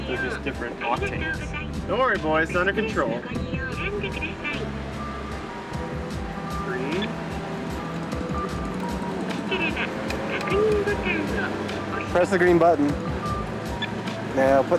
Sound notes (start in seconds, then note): 10.9 continuing in Japanese; 13.5 beep